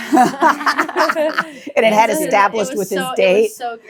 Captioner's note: laughing